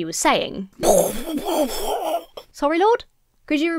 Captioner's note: splutters